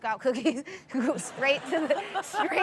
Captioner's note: chuckles